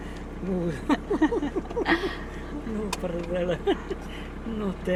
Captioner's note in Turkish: kahkaha